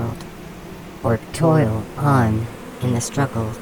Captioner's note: the humming hive becomes frenzied once more